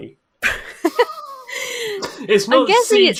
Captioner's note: laugh